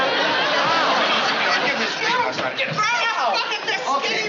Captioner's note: shouting